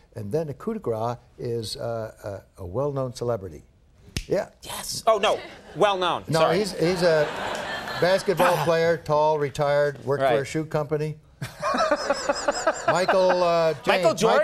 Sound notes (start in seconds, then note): 6.9 laughter; 11.5 laughing